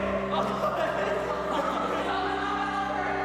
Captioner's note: laughter; playful laughing